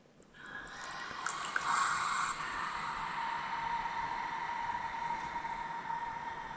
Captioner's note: breathy exhalations